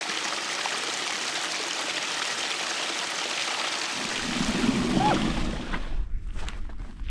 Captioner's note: water running downstream